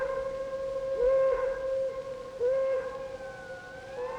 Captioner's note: sirens